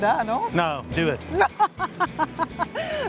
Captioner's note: laughs